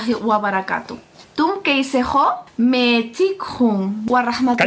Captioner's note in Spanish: habla en un idioma extranjero